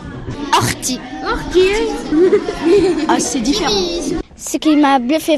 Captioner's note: laughs